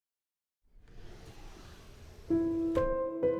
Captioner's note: draw slides and clicks; soft piano music